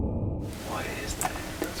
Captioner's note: whispering